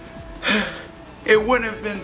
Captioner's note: sighs contently